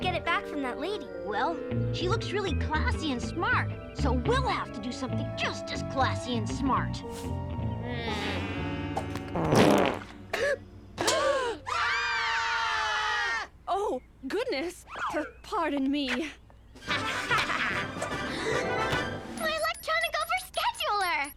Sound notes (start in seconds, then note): 9.0 ballon smashing; 9.4 gasps; 10.3 crowd gasps; 11.7 crowd screams; 16.8 laughter; 18.2 gasps